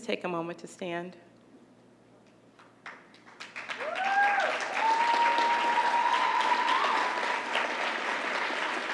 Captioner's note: applause